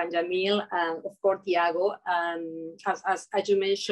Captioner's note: speaking in Portuguese